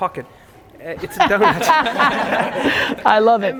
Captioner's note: laughs